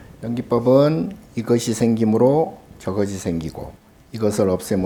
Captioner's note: speaking Korean